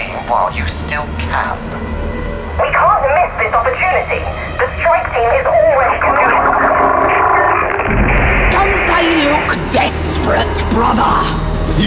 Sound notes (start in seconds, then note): 2.8 flaring anger; 5.4 her voice breaks in ugly distortions; 6.7 Vox-caster breaks down in cathodic cackles